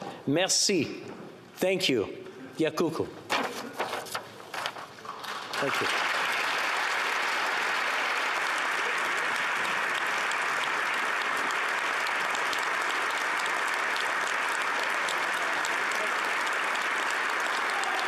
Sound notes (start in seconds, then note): 4.8 speaking Alternate Language; 7.7 applause